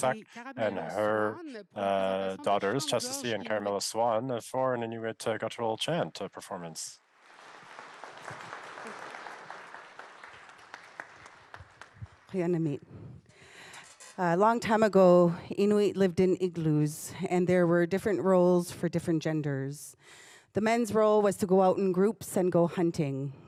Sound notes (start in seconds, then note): 7.2 applause; 12.2 speaking Indigenous language